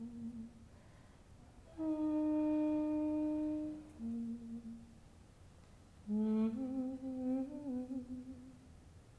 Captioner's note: soft humming resumes